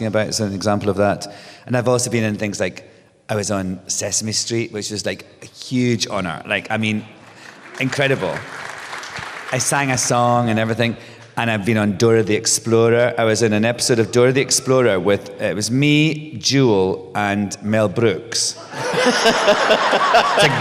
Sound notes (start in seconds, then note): 7.2 applause; 18.6 laughter, cheers